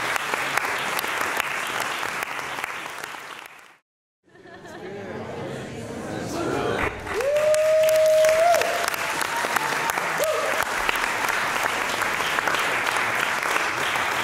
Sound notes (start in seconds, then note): 4.4 general chatter; 6.7 cheering, applause; 11.7 applause